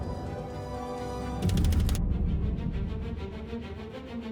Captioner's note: tense energetic music; text clicking; tense energetic music continues